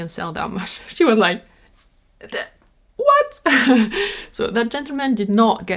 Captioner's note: laughs